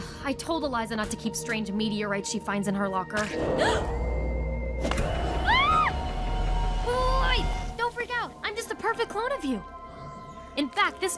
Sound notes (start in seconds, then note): 3.5 gasping; 5.4 screaming